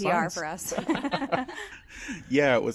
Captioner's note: laughs